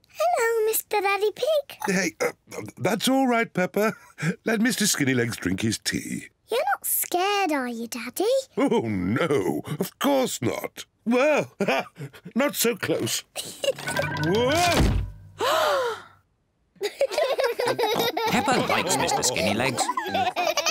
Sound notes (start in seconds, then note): 11.6 laughs; 15.4 gasps; 16.8 all laugh